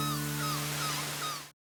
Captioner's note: seagulls calling